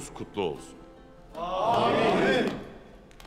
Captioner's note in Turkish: Hep bir ağızdan